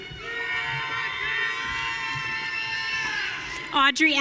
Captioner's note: audience cheering